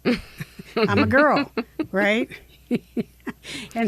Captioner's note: chuckles